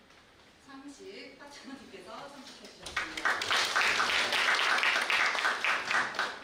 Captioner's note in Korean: 박수